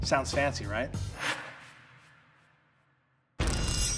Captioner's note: air whooshing